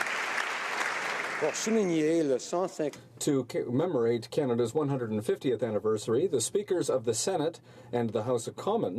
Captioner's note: applause